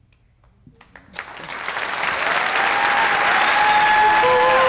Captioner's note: crowd applauding